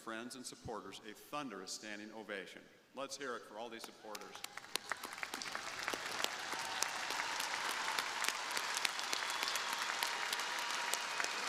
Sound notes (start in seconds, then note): 4.2 crowd applauding